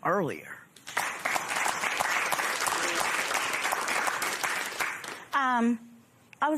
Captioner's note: applause